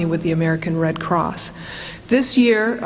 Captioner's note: none